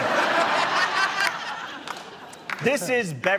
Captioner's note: laughter